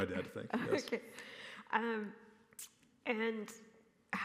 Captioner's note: laughs